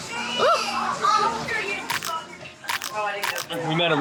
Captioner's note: teeth crunching